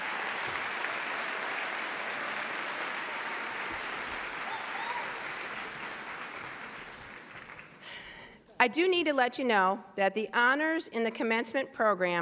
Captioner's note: applause